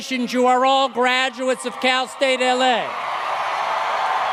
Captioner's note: applause